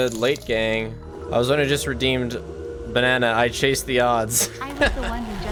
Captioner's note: laughs